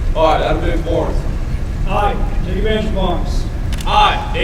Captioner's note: commissionees repeat